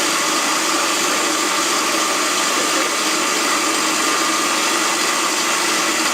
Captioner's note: loud food processor noise